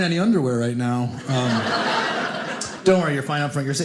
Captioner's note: audience laughing